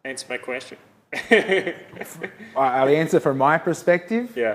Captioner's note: laughter